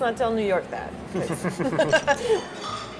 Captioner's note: laughs